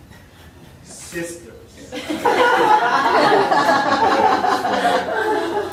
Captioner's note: audience laughing